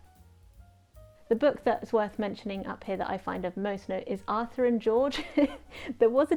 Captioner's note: laughs, because of the story I'm about to drop